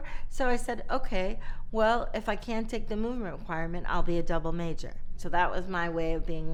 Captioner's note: none